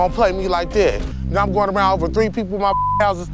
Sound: beep

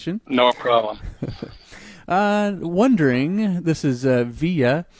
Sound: chuckles

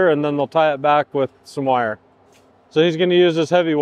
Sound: none

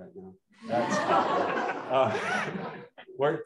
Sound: laughter

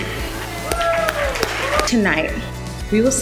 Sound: cheering

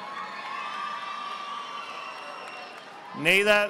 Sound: audience applauding

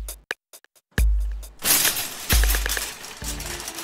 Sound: shopping carts shaking

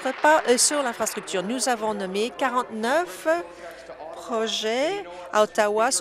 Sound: applause

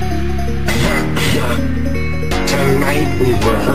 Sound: bro is coughing and laughing at the same time!

